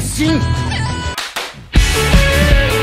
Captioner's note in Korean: 짝짝